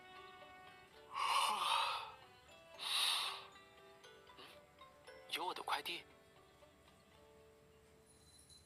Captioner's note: yawn